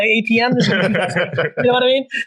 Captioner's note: laugh